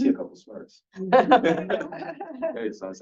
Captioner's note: everyone laughing